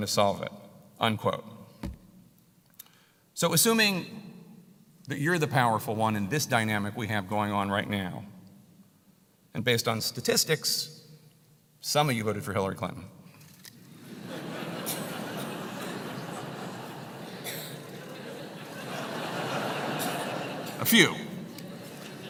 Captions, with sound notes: Whatever you problem is I'm gonna solve it, unquote. So assuming that you're the powerful one in this dynamic we have going on right now, and based on statistics some of you voted for Hillary Clinton >> [LAUGH] >> A few. Let me just say that empirically,